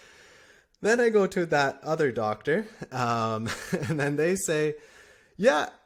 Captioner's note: laughter